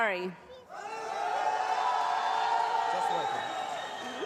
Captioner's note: loud cheering